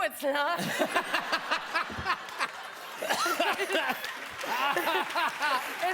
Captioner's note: laughter